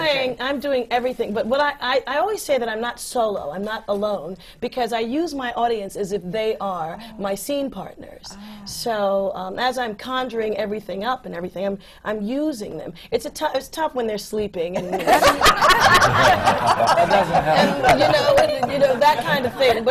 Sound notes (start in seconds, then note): 14.7 laughter